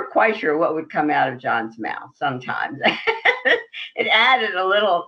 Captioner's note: laughs